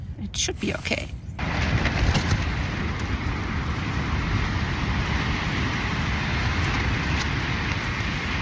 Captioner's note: loud wind sounds and rustling of the tent